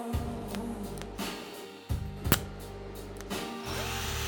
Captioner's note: quick weld